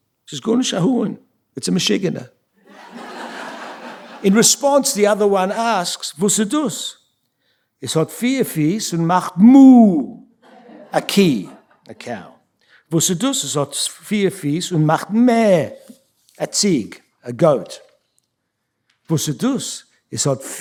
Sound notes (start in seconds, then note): 0.9 speaking yiddish; 3.1 yiddish; 6.2 speaking yiddish; 12.6 speaking yiddish; 19.0 speaking yiddish